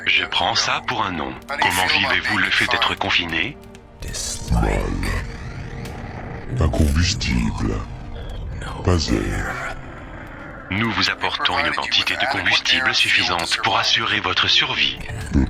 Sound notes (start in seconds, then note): 5.8 crackling